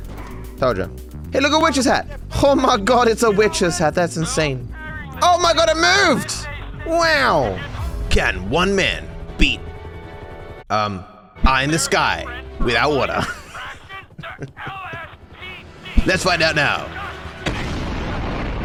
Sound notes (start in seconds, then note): 10.5 voice echoes; 13.2 laughs